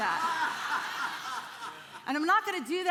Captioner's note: congregation laughing